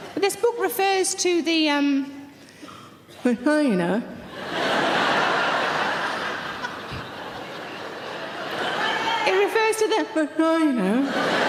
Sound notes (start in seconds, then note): 4.3 audience laughing; 11.0 audience laughing